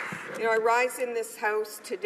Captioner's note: applause